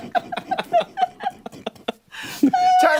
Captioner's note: laughter